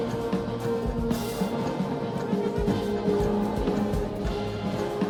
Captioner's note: girls chanting